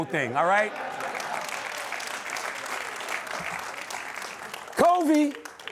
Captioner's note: laughter/applause